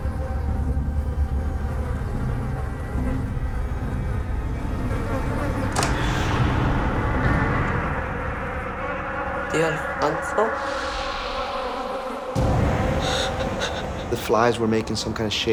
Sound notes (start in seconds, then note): 8.8 speaking Spanish; 12.7 gasping